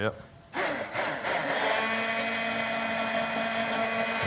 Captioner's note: grinding